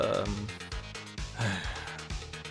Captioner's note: sigh